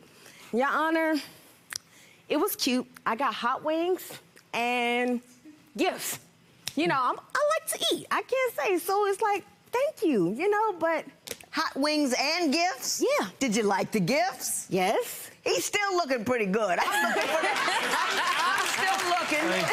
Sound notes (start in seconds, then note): 17.0 crowd claps